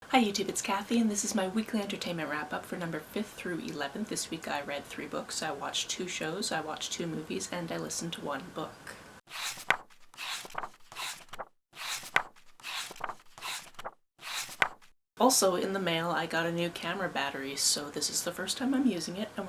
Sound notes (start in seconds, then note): 9.3 pages turning